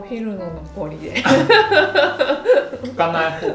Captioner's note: laughs